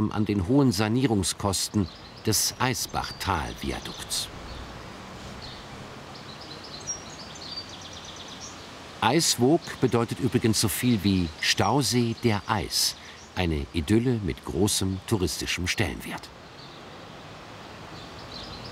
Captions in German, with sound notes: an den hohen Sanierungskosten des Eisbachtal-Viadukts. (Vogelzwitschern) "Eiswoog" bedeutet übrigens so viel wie "Stausee der Eis". Eine Idylle mit großem touristischem Stellenwert. (Vogelzwitschern)